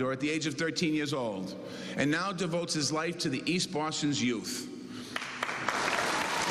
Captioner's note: cheers and applause